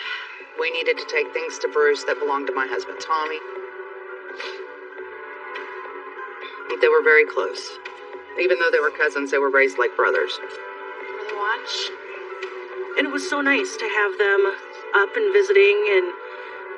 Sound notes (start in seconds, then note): 4.3 sniniffleles